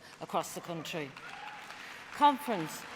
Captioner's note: applause